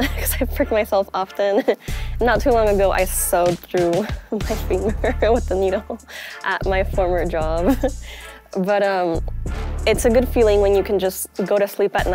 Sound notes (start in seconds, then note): 7.6 chuckles